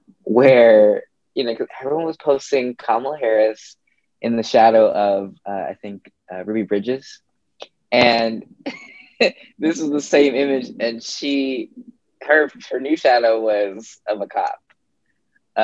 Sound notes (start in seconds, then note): 8.6 chuckles